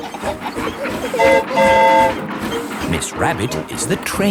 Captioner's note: train whistle toots